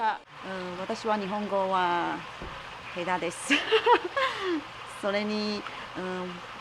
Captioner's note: laughs